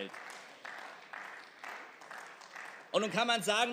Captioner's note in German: Beifall